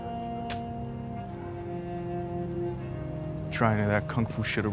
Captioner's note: man spits